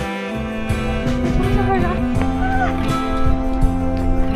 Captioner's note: excited noises